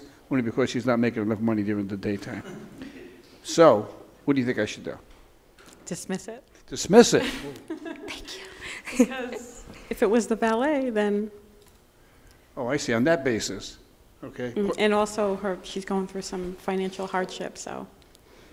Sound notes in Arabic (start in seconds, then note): 7.1 ضحكات